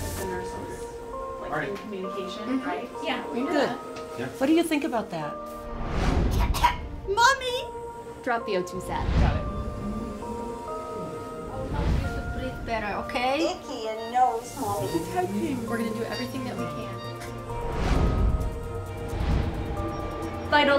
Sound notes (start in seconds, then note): 6.5 coughs